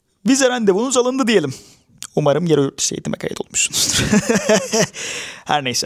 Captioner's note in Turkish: kahkaha